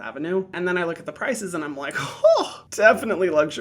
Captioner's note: gasps